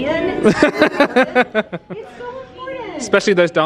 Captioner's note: laughing